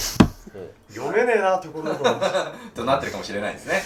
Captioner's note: laughing